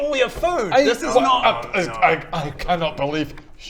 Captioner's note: splutters